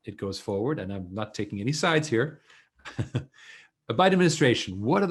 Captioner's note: chuckles